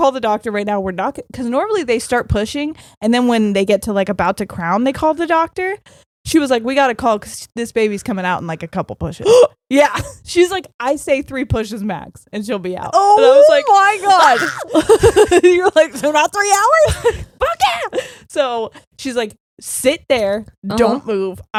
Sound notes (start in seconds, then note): 9.0 gasping; 13.2 laughing